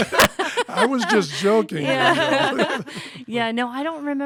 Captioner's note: laughter